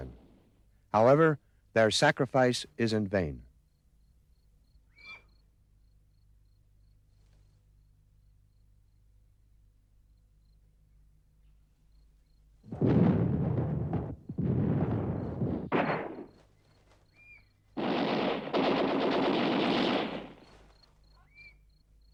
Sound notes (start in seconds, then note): 12.8 explosions; 12.8 gunfire